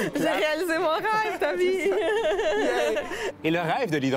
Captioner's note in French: rires